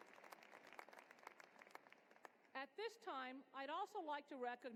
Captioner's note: applause